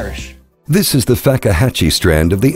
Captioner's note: voiceover